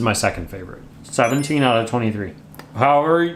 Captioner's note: chimes tinkling